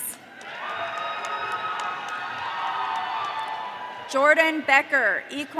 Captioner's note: audience cheering